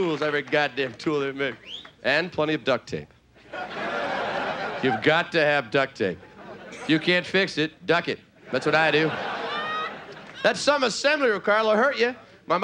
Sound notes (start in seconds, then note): 3.4 audience laughing; 8.4 audience laughing